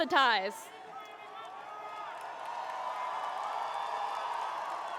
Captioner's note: cheering